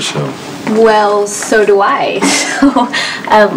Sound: laughs

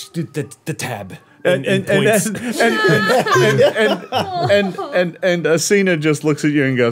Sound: all laughing

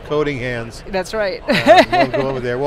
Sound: laughs

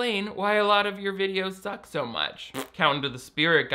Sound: blows raspberry

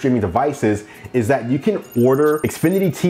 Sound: bells chiming

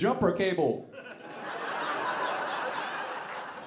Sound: audience laughing

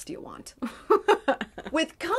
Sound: laughs

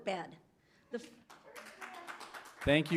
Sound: applause

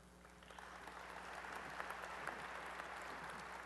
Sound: applause

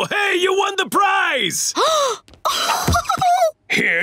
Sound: gasping

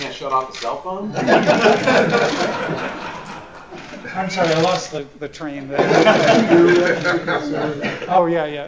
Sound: laughter

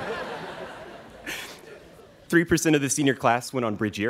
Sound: students laughing

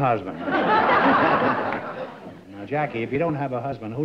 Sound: laughs

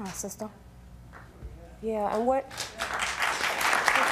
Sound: applauding

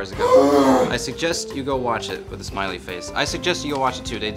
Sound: loud exasperation noise

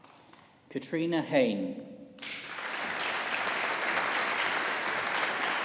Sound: audience applauding

